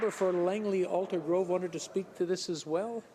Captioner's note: some Applause